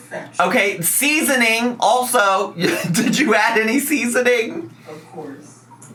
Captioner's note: laughs